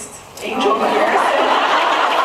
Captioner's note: laughing; laughs